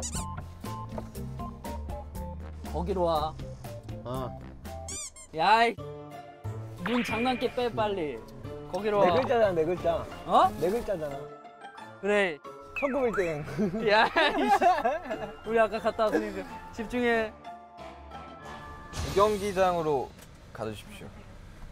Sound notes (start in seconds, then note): 13.5 huhuhuhuhu